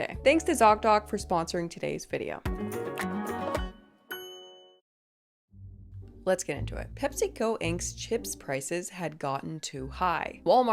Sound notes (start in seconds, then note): 2.4 bright music; 4.0 bell rings